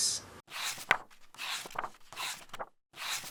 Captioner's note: pages turning